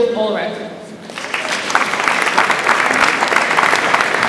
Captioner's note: audience applauds